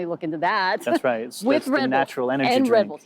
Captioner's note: laughing